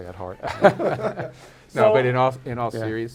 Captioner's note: laughs